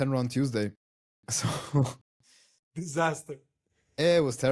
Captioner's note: laughs